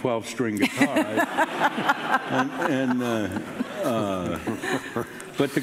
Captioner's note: audience laughing